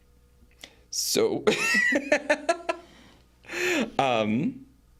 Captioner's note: laughs